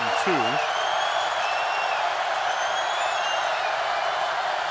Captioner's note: cheering